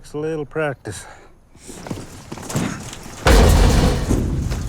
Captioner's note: gate bangs and rattles